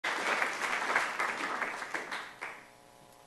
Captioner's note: applause